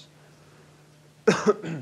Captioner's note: coughs